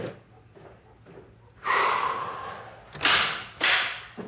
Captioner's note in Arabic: زفير النصر